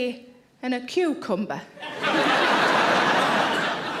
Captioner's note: audience laughing